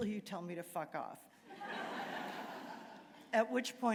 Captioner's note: laughter